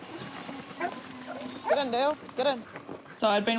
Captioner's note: dogs bark